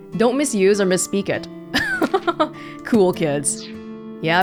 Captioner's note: chuckles